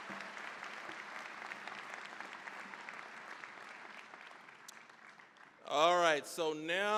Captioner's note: cheering, applause; applause